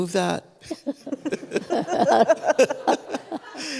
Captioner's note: laughter